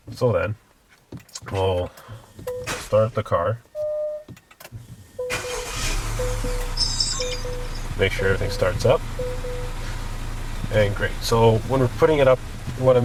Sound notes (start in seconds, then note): 5.6 car starts